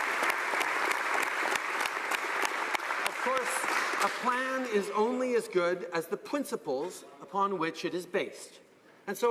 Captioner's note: applause